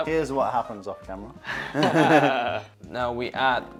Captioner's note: laughter